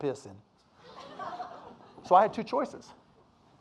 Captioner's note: audience laughing